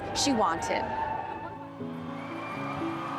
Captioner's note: crowds cheering and applauding; gentle pulsating music